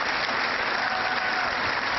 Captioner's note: cheering